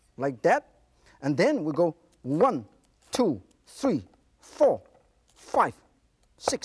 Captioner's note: none